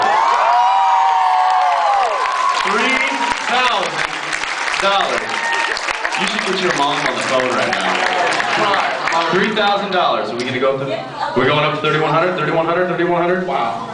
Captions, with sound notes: [cheers] 3000 dollars. [applauds] [applauds] You should get your mom on the phone right now. [applauds] I know, she’d cry. My mom would cry. 3000 dollars, [applauds] are we gonna go up to -- we’re going up to 3100? 3100, 3100. Wow.